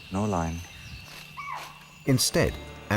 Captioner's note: animal screeches